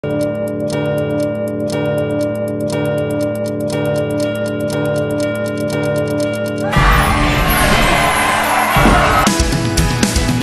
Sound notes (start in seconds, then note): 6.8 sound of fire cracker and music; 9.7 instrumental music